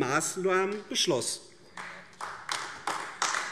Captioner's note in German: Beifall AfD